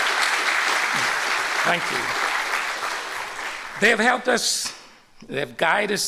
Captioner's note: applause